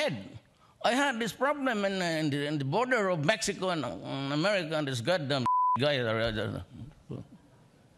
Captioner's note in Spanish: bip